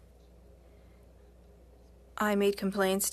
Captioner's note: speaking French